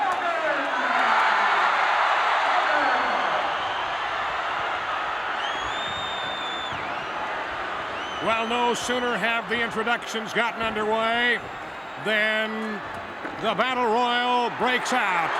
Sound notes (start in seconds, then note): 1.1 crowd cheers